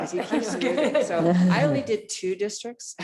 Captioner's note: laughs; board members laughs; laughs